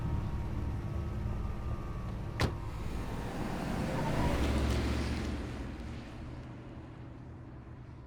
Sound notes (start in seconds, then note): 2.4 car door thuds; 3.9 car whooshing